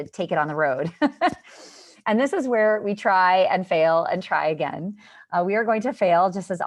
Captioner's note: laughter